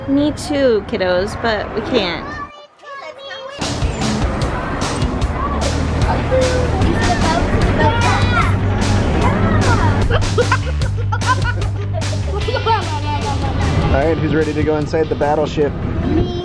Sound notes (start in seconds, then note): 3.7 upbeat music; 10.7 children laugh